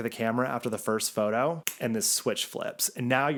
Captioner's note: fingers snap